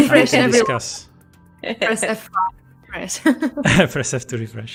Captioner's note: laughs